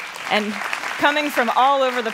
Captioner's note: applauding